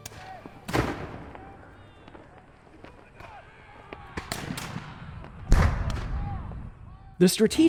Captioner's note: gunfire